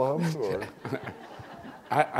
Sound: laughter

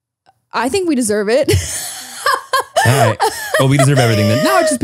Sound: laughs

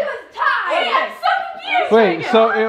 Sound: shouting

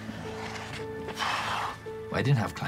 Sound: exhales sharply

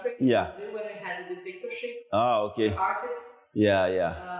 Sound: speaks in Portuguese

